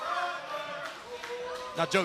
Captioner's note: fans chanting